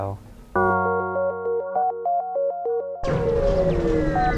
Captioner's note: video game noises